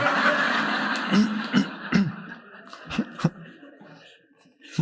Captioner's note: audience laughing